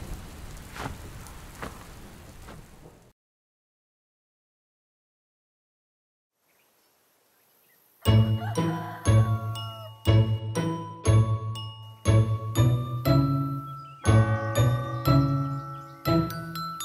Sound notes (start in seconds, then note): 8.1 rooster crows; 14.1 clock chimes